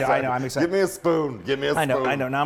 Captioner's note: laughs